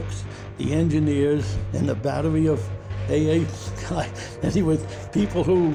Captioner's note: laughs